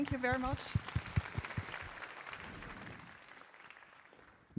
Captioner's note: applause